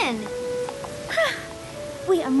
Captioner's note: sighs